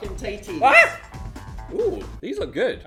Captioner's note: lively music; screaming